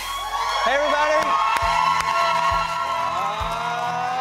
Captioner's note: cheering